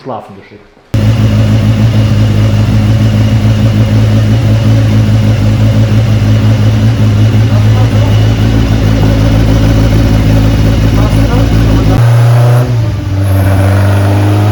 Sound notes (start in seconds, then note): 1.0 engine sound